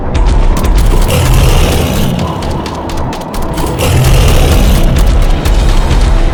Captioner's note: steps thudding; gun blasting; beast growling